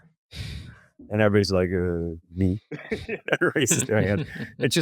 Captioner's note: laughs